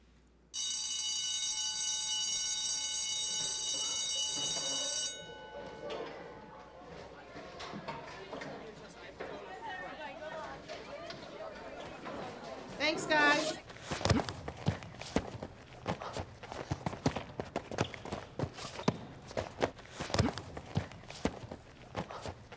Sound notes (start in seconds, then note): 0.5 bell rings; 5.6 indistinct chatter; 12.6 boys grunting